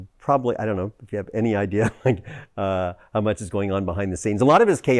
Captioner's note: laughs